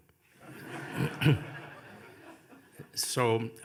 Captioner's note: audience laughing